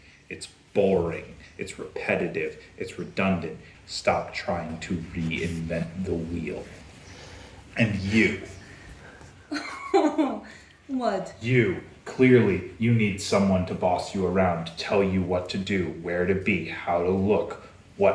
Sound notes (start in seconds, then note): 9.4 snickers